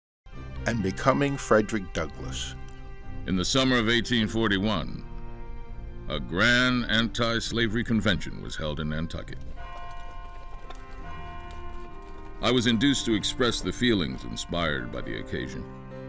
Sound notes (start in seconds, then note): 0.1 somber music; 9.2 horse hooves clomping; 9.5 bell tolling